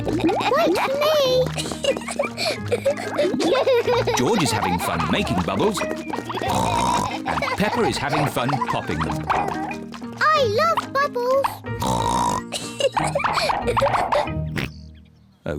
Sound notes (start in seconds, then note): 1.5 both laugh; 6.0 oinks; 10.3 oinks and giggles; 13.9 oinks